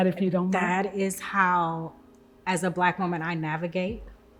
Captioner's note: none